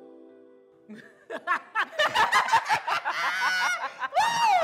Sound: gentle music; group laughing

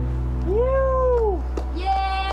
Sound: clapping

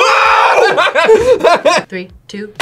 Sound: both laugh

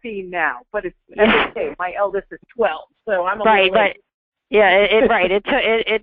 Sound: voiceover

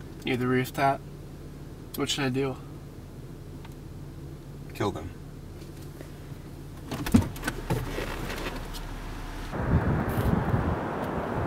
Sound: opens car door

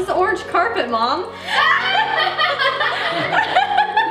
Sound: laughs

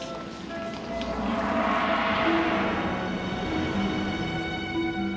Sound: large gong rings; suspenseful orchestral music

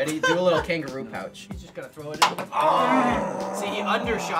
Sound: all groaning

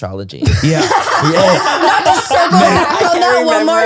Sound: everyone laughs

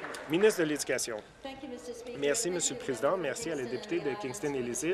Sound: applause

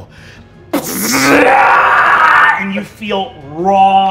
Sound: screams

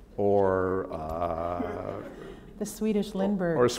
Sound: laughter

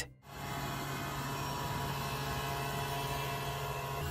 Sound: machine whirring

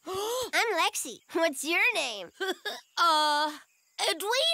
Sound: giggling

